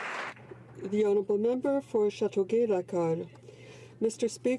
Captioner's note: applause